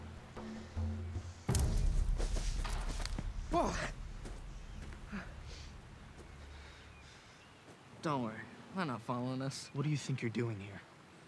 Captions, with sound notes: (TWIG SNAPS) Whoa. Don't worry. They're not following us. What do you think you're doing here?